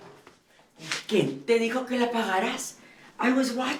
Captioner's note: Spanish